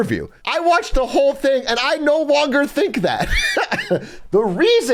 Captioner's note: laughs